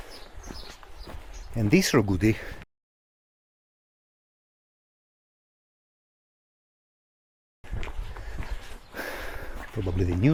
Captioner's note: birds chirping